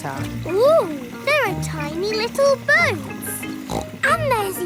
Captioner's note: snorts